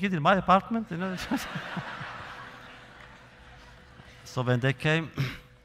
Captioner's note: laughter